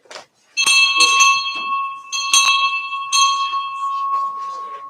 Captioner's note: bell rings